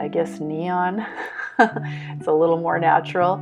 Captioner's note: chuckle